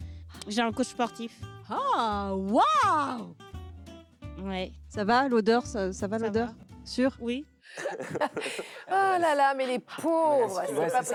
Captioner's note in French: rires